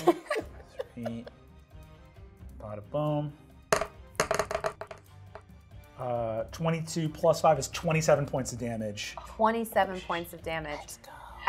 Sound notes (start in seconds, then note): 0.0 laughs; 4.2 dice rolling